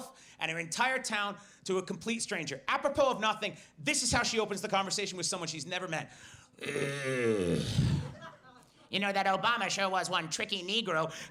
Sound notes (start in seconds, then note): 6.1 heavy breathing